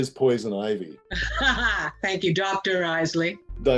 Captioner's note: laughing